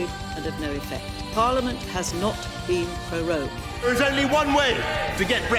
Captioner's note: shouting